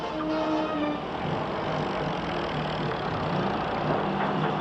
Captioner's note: engines roar